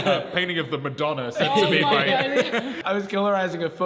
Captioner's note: laughs